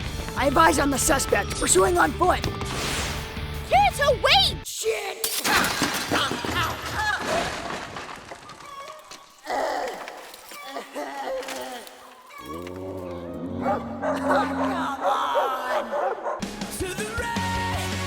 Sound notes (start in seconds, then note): 5.2 glass shattering; 9.4 groaning; 12.4 barking; 12.4 dog growling; 15.8 barking